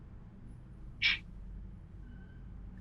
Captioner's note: scoffs